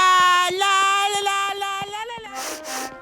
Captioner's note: sniffs